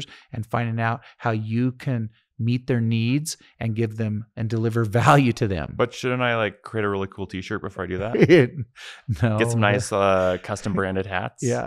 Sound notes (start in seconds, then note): 8.0 laughing